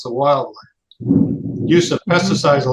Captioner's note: loud thunder in background